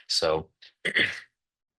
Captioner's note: interpreter clears throat